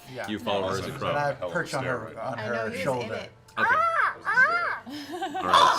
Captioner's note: unnervingly realistic crow noises; crow sounds